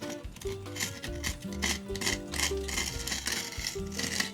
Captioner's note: metal scrapping